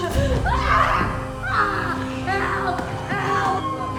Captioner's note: screaming